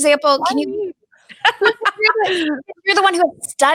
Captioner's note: laughs